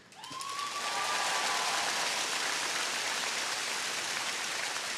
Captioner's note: audience cheering